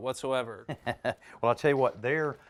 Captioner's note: chuckles